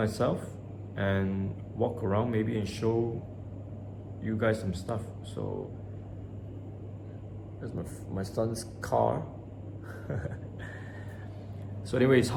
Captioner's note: cute giggle